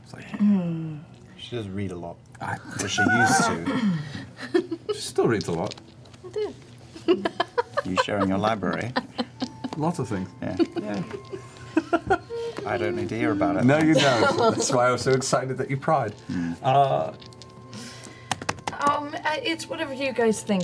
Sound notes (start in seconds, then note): 7.0 laughs